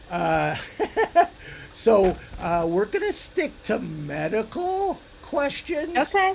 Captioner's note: laughs